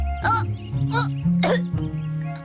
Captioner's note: coughs